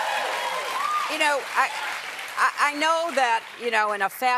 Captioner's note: cheers and applause